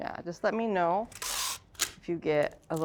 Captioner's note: tape rasping